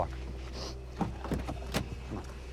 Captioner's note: Tyler sniffs